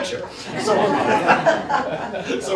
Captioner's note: laughter